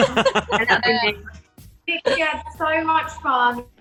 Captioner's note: they laugh